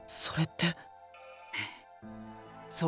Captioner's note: breath